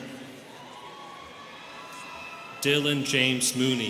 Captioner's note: students cheering